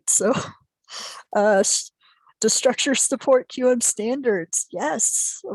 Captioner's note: chuckling